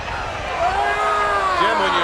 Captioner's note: Ric yelling